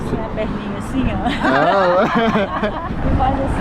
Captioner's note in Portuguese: risos